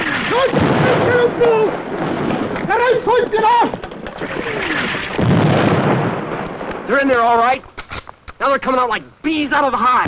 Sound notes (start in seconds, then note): 0.0 footsteps; 0.2 foreign language; 5.1 explosion